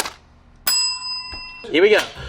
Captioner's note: bell dings